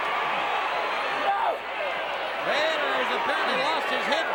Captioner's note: audience indistinct yelling